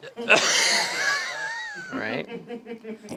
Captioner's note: everyone laughs